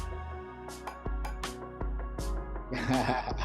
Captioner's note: laughter